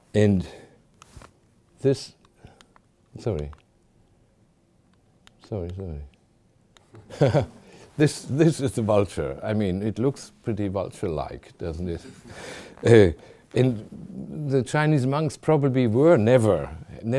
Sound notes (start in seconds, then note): 7.0 chuckling; 7.0 audience chuckling